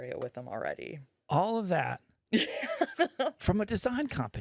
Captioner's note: laughing